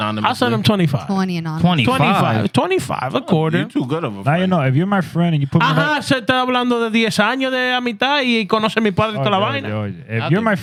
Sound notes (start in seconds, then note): 5.9 speaking Spanish